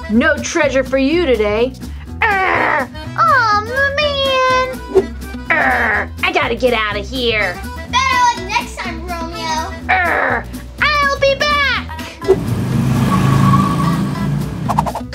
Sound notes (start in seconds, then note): 2.3 Romeo grunting; 5.5 Romeo grunting; 9.9 Romeo grunting; 12.1 car revving